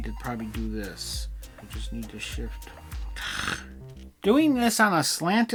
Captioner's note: scoffs